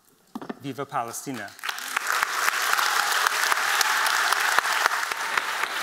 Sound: applause

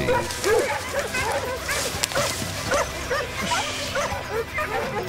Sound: dogs barking

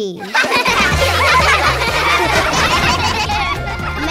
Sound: laughing

